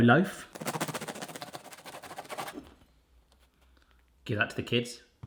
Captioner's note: knife scratching